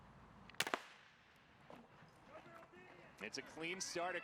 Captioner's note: gunshot